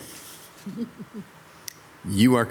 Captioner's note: council member chuckles